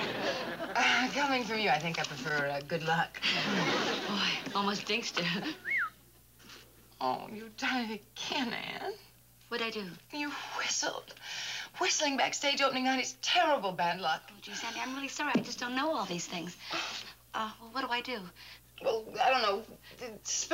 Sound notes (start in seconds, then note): 5.6 whistles